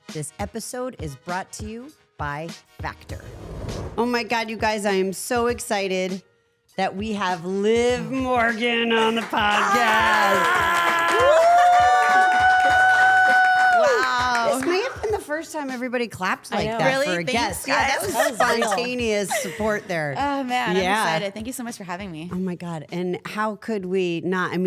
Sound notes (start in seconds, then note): 9.7 Liv laughs; 10.5 audience applauds